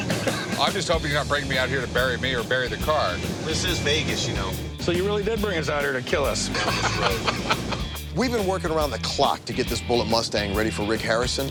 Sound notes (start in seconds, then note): 0.0 laughter; 6.4 laughter